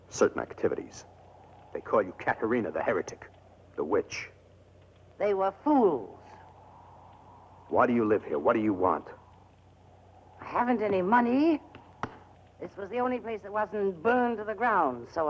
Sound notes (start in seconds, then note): none